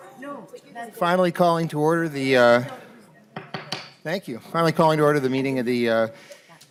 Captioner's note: gavel